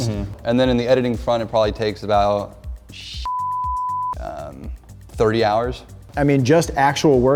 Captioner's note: beeping